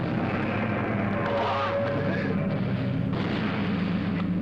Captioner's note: yelling